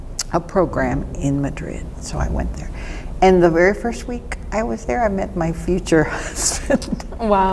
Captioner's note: laughs